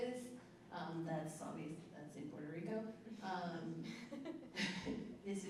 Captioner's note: chuckling